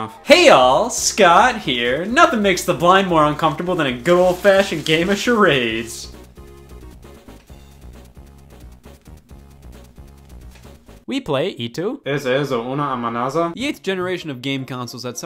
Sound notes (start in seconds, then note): 12.0 speaks foreign language